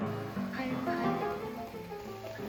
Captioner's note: boiling sound